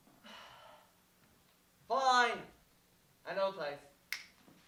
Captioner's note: snaps